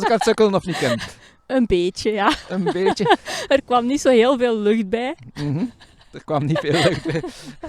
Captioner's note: laugh